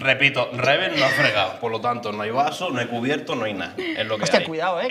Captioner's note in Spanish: none